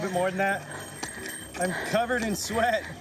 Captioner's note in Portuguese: alguém agita chocalhos, no público